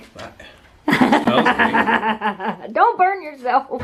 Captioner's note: laughter